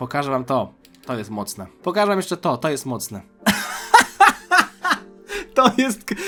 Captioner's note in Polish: śmiech